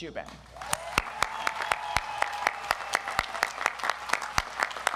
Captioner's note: audience applauds